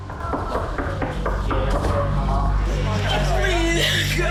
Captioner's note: knocking on door